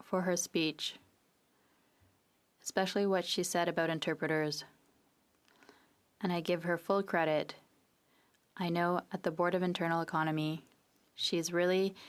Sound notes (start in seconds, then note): 2.5 speaking French